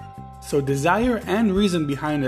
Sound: voiceover

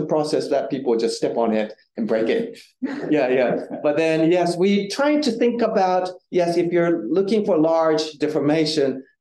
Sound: audience chuckling

